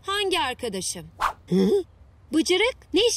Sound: struggling noise

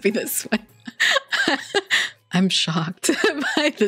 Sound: laughs

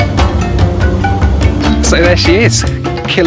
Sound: upbeat percussion music; plane engine humming

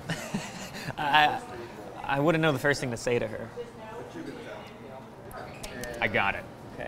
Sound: laughs

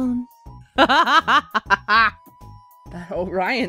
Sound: sultry; laughs

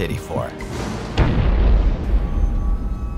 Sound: explosion

